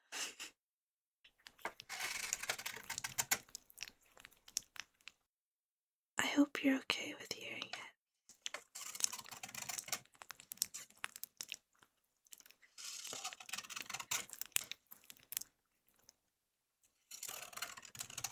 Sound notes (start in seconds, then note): 1.5 cutting you open noises; 12.8 more surgery noises